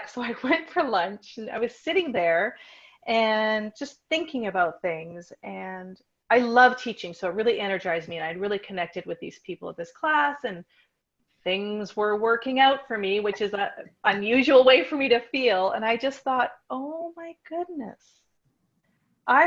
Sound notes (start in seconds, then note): none